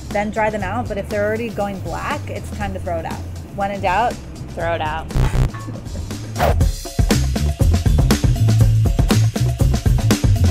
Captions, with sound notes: Then dry them out but if they're already going black it's time to throw it out. When in doubt... - Throw it out. (buzzer dings) (air whooshing) (upbeat music)